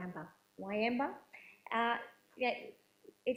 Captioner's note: woman's Voice